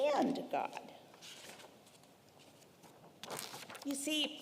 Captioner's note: paper rustling